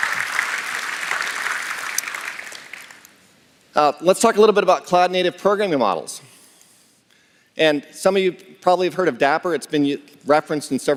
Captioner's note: applause